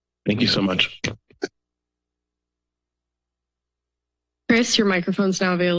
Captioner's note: silence